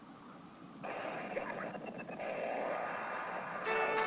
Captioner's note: radio static